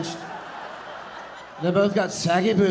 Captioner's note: audience laughing